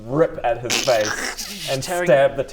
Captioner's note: krrrschch